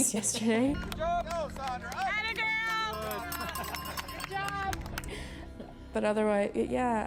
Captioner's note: cheering